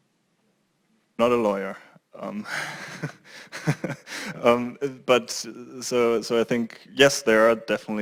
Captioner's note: laugh